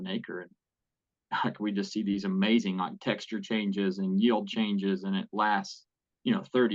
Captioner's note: laugh